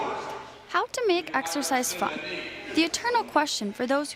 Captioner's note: voiceover